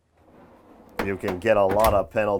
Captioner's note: drawer sliding